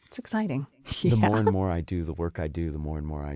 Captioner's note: laugh